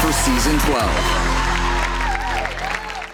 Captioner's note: audience clapping